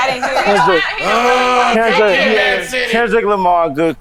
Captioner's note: chatter